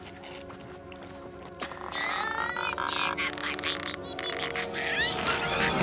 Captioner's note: tense music; clothes squishing; Captain Flamingo grunting; the underwear pile crashes